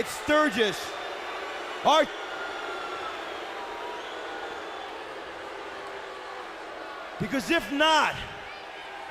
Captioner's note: crowd cheering